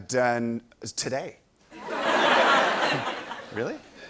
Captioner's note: laughter